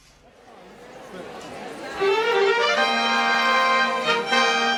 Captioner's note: audience buzz